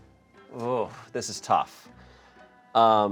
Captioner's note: none